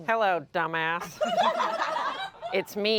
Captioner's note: everyone laughs